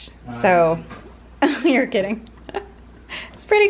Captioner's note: laughs